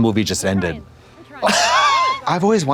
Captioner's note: Katya wheezes